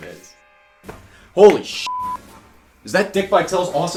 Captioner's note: beep